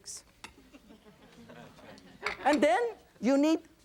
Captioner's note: audience chuckles